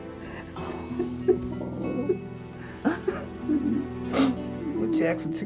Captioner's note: somber music continues; Jack crying